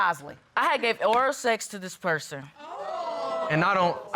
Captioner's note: audience exclaims